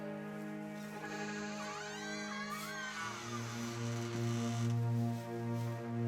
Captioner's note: barn door squeaks